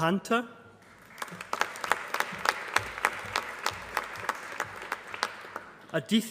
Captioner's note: applause